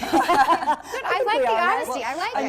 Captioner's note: laughter